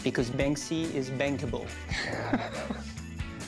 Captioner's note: laughs